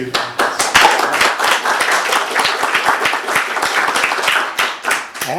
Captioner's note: applause